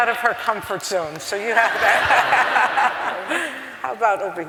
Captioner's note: laughter